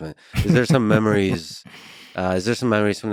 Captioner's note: laughs